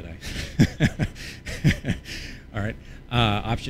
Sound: laughs

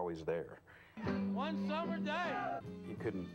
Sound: crowd shouts

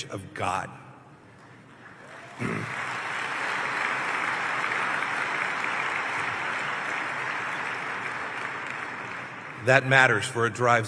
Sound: applause

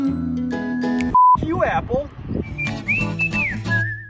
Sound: beep; cheerful music

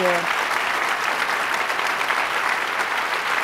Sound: applause

